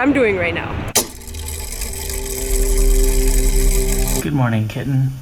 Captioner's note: mechanism whirring